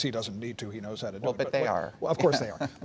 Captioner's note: laughs